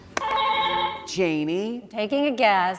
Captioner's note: buzzer ringing